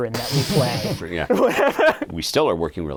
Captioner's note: laughing